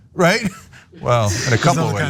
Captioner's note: laugh